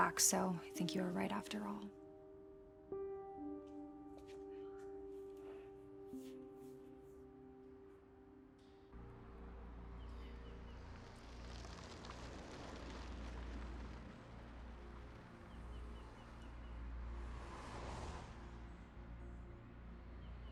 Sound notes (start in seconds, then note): 2.9 somber music; 10.0 birds singing